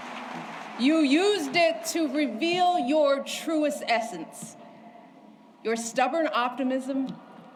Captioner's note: applause